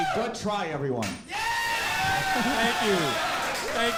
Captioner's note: audience cheering